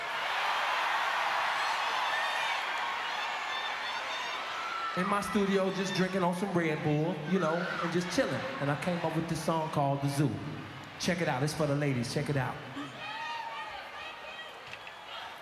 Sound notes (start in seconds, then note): 2.0 cheers